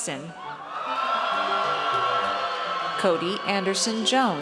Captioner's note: audience cheers